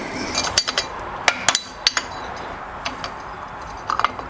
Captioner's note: metal clanging